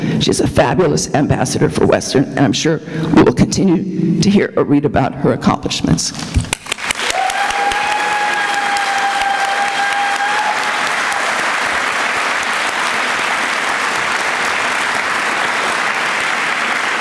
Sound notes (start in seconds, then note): 6.4 applause